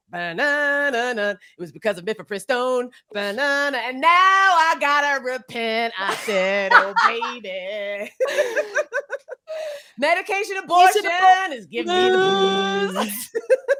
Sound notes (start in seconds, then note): 6.0 laughs; 8.1 both laugh; 12.9 both laugh